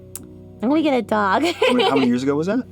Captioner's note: laughs